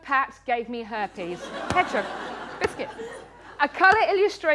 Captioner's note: laughter